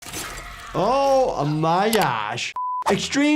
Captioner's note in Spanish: personaje gritando; pitido de pantalla